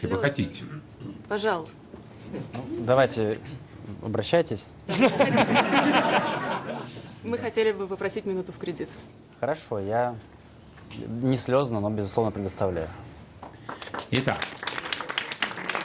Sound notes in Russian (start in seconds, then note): 4.9 смех; 13.4 аплодисменты